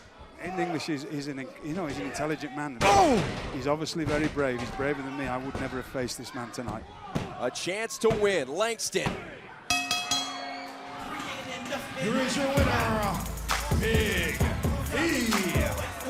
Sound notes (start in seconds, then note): 9.7 bell ringing